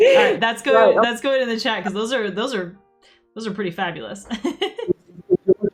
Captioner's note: laughs